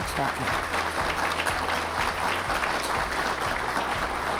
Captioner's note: applause